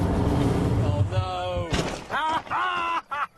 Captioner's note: thud; richard laughs